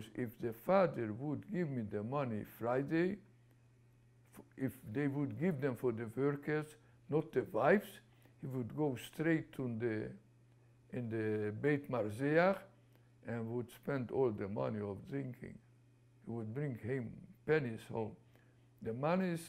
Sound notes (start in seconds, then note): 12.1 non-english